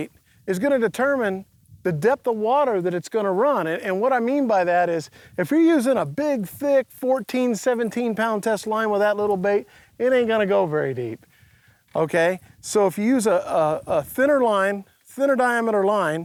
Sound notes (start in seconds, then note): none